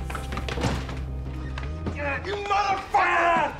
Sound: bodies scuffling

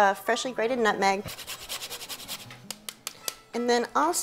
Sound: scraping and tapping

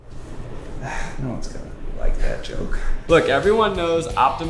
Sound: sighs

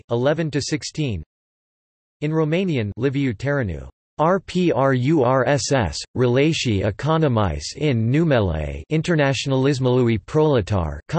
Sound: in Romanian

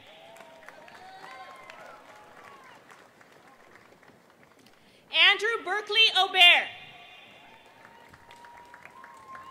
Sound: applause

